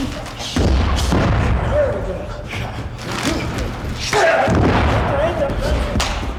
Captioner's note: both grunting; bodies thudding